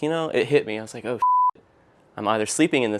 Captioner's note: beep